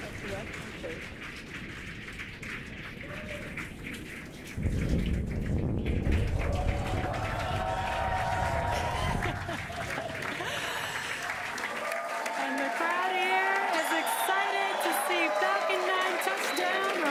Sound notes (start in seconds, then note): 2.0 cheering and applauding